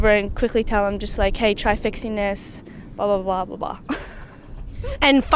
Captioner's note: laughs